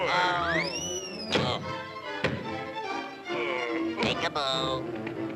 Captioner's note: dramatic music; Popeye whooshing; Popeye thudding; fist thuds